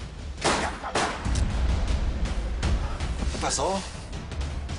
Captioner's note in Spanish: Disparos